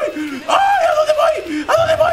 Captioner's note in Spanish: Grita